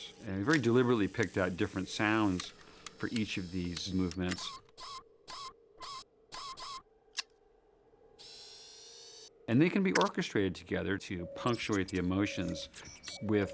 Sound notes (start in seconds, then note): 4.5 servos whining; 7.1 clicks; 8.1 whirring